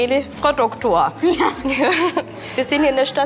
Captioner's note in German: lacht